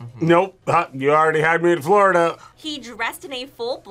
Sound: laughs

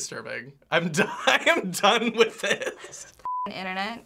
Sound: laughing

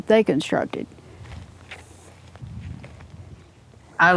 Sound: footsteps

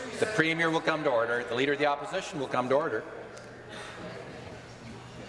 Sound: conversation din

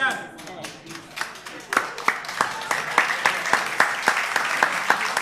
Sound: applause

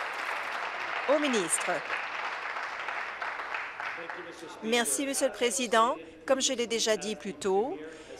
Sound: applause

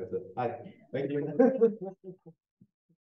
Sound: chuckling

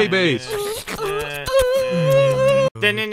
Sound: kiss

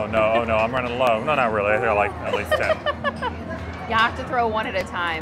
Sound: laughs

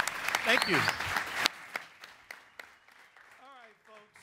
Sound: audience applauds

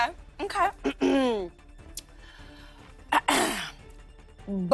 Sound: clears throat

